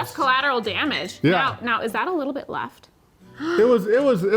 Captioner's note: gasps